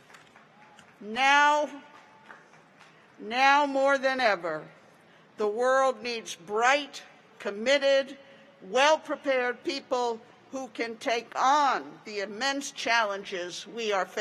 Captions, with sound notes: YOU ARE THE CURE! YOU ARE THE CURE! [APPLAUSE] NOW MORE THAN EVER, GRADUATES, THE WORLD NEEDS BRIGHT,